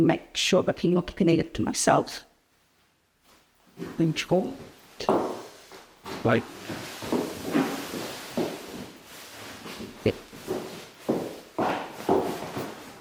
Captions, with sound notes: and make sure that I'm not pinning it to myself like before. (shoes clicking) (fabric rustling)